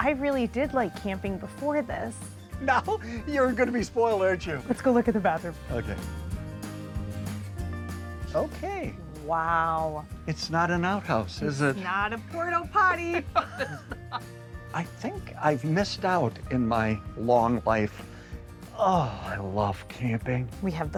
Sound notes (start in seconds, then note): 13.2 laughing